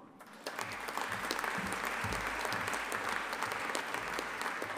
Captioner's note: audience applauding